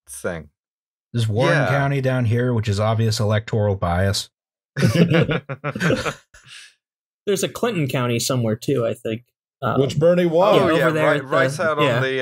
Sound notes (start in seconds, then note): 4.8 laughter